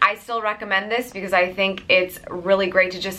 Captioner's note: none